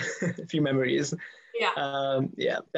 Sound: laughs

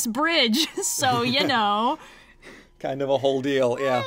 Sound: hums x-files theme; laughs

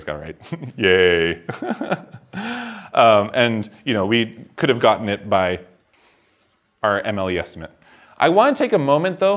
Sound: laughs

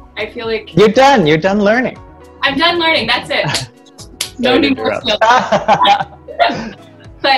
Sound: laughter

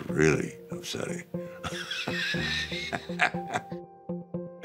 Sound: laughs

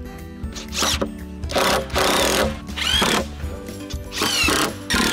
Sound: screwdriver whirring

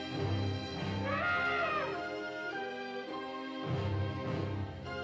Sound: elephant trumpets

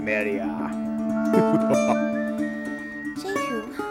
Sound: נבאד צוחק בצורה שטנית

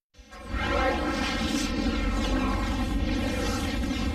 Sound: tornado and helicopter sounds

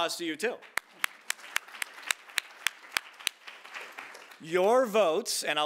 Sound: audience applauding

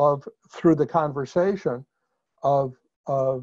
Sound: none

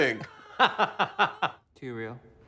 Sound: laughing

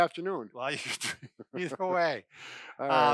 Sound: laughing

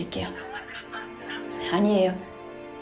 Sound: sobbing

